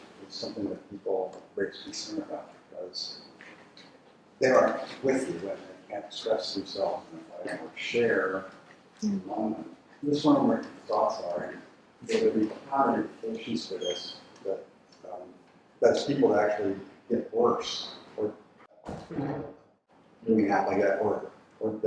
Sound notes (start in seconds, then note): 12.3 speaking faintly